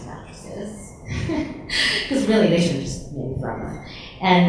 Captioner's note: laughs